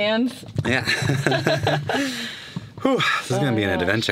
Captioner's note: laughing